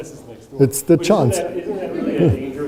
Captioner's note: audience laughs